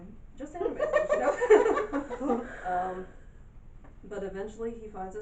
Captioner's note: awkward laughing and murmuring from everyone else